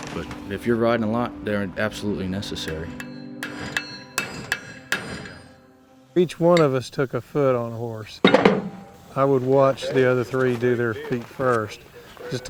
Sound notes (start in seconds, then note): 2.5 metal clanking